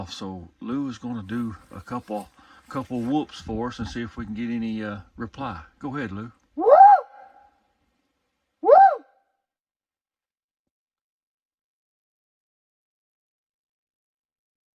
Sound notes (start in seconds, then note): none